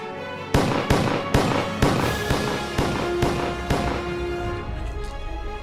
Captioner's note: gunshots